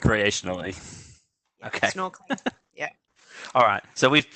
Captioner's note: laughs